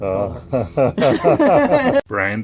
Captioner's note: laughs